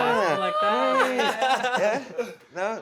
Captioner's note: chuckles